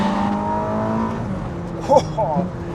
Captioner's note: engine rumbles